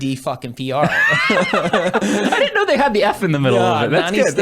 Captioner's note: laughs